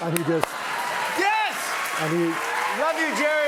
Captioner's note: cheers and applause